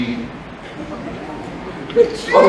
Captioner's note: laughter